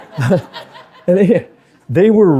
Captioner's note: audience laughing